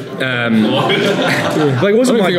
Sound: laughing

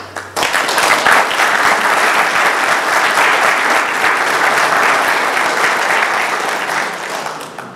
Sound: applause

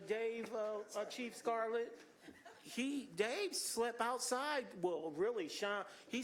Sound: laughter

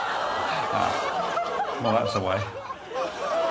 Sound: audience laughing; audience laughs

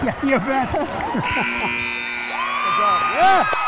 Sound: laughs

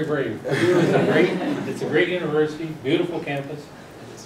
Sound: laugh

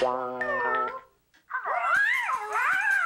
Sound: phone ringing; meowing

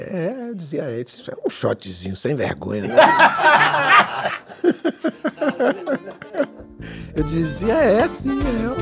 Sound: laughter

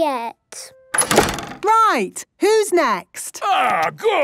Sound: doors slamming

